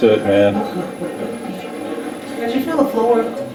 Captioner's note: static playback transmitting